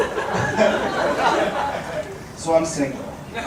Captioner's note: chuckles